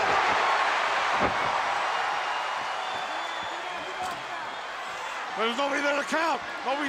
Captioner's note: crowd cheering